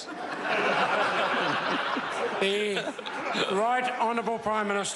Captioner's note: members laugh